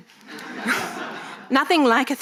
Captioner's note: audience laughing